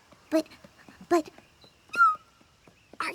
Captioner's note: squeals